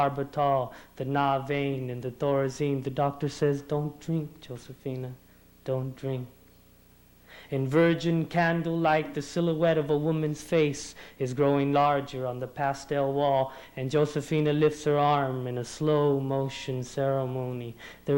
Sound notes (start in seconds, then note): none